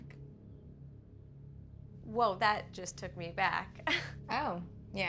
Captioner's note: laughs